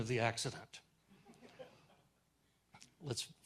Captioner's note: audience chuckles